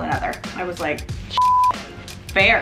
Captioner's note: beep